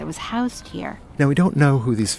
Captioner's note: voiceover